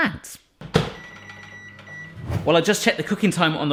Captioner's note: beeping